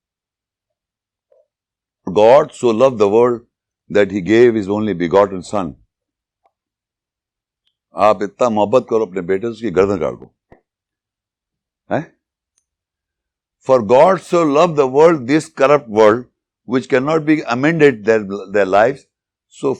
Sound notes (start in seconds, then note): 7.6 speaking in Urdu